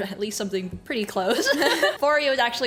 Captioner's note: laughs